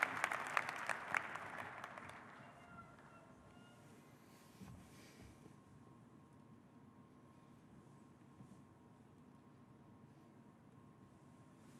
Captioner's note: applause